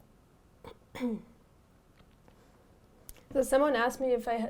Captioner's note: clears throat